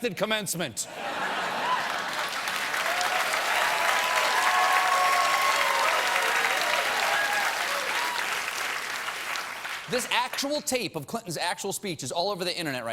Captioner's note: cheers and applause